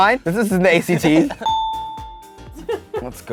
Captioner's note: dinging